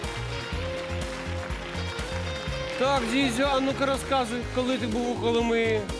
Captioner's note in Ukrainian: оплески